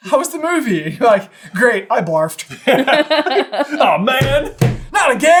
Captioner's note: laughter